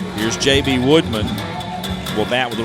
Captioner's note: high tension music; voiceover